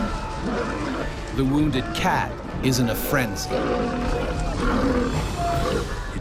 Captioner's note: voiceover